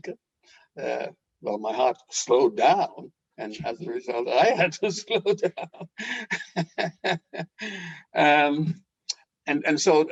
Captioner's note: laughing